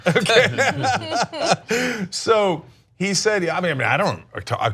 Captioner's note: laughter